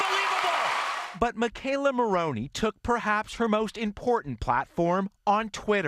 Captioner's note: cheers